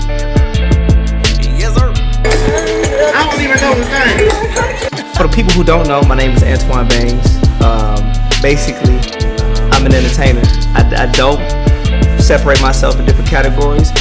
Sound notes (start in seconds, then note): 3.0 speaker On Microphone